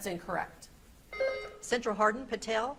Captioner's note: beep buzzing